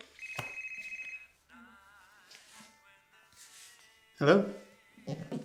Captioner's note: phone rings